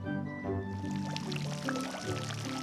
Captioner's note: water running